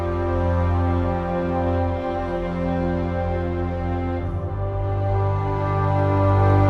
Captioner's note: transitional ambience